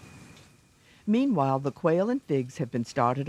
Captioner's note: voiceover